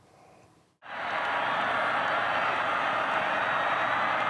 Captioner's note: fans cheer